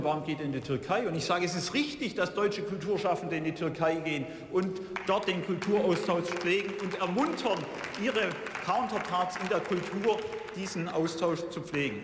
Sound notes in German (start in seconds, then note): 6.9 Beifall